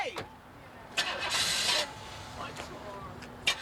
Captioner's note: car starts